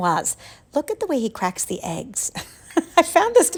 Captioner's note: chuckling